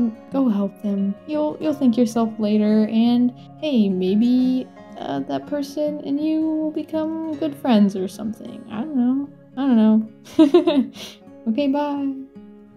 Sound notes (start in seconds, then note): 10.3 laughs